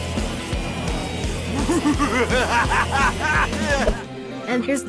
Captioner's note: evil laughter